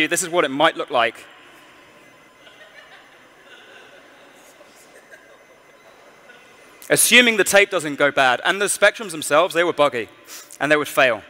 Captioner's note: laughter